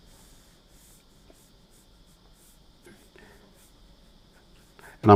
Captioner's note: silence